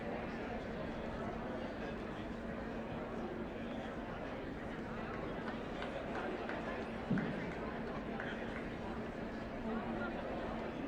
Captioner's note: indistinct chatter